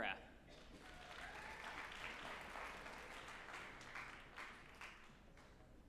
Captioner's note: group applauding and cheering